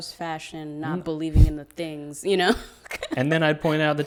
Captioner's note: laughs